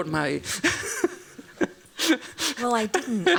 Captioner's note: laughs